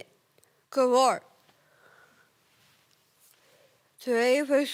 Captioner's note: rustling